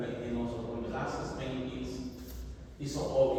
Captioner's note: none